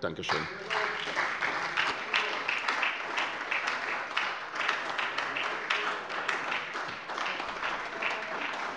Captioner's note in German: Beifall bei der SPD